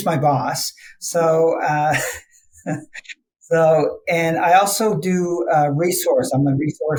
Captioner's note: laughs